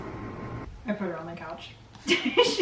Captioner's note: laughs